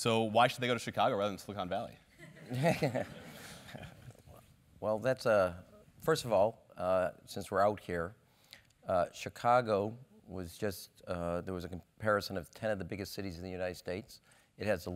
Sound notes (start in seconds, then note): 2.2 laugh